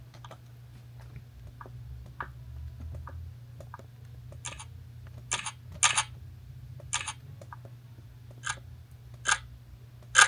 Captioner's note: sound of the camera volumes changing